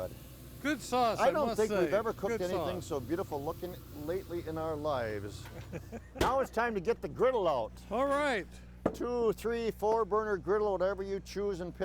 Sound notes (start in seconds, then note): 5.5 laughs